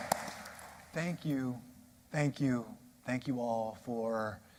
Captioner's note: applause